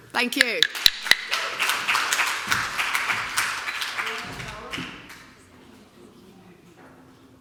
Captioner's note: applause